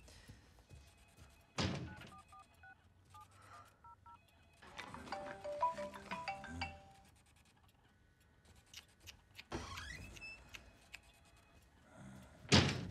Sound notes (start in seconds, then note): 3.8 Ruby's phone rings; 8.4 tuts